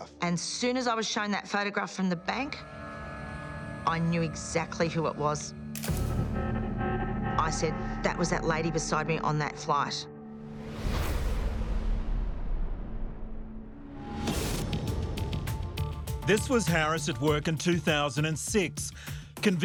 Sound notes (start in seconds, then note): 2.6 dramatic music continues; 5.9 camera shutter clicking; 5.9 dramatic music intensifies; 10.8 screen whooshes; 14.4 upbeat music